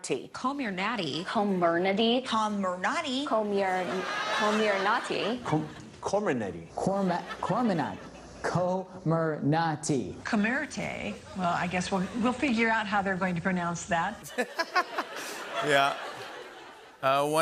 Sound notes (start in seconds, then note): 3.6 laughter; 14.2 laughter